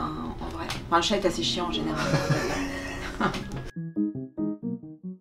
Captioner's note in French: rires